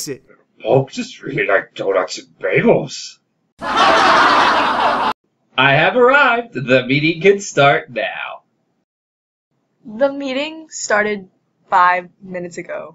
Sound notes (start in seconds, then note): 0.3 with authority; 3.6 crowd laughter